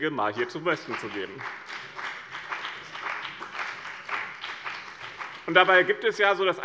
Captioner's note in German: Beifall bei dem BÜNDNIS 90/DIE GRÜNEN und der CDU